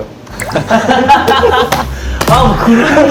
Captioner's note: sigh